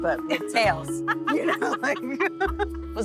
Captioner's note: laughs